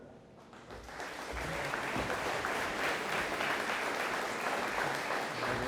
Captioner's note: audience applauding